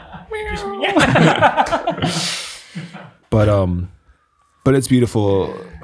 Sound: father laughing

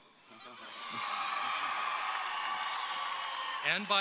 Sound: audience cheering

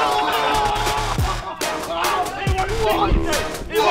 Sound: heavy bass music; cheering

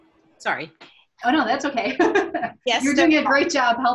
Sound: laughs

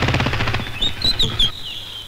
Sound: brakes squeal

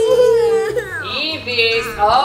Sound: crying

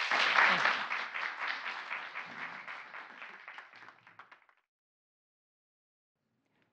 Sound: applause

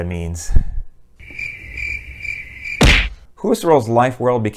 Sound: cricket sounds

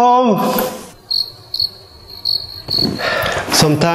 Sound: crickets

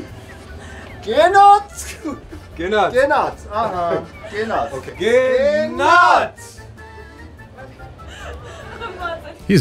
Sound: laughing

